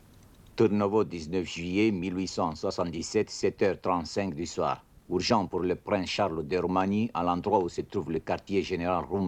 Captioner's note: speaking French